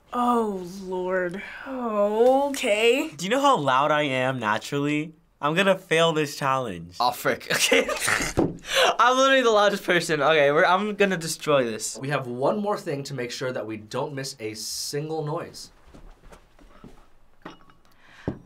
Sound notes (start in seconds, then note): 0.0 whispers; 7.6 laughs